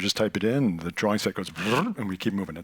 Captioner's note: mimics sound